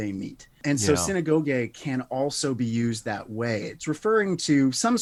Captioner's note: speaks Greek